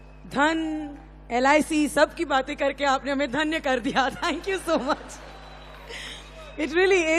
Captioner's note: applause